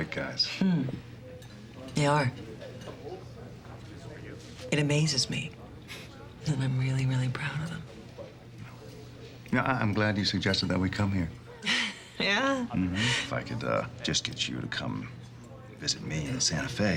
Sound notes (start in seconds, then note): 11.5 laughs